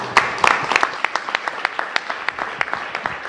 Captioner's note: applause